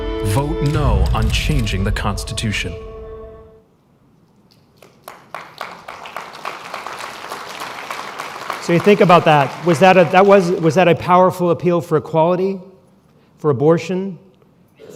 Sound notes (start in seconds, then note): 4.5 applause